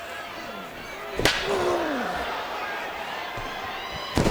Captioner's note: chair thuds